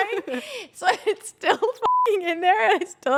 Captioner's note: beep